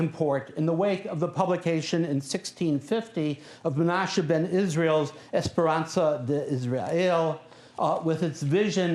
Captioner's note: non-english speech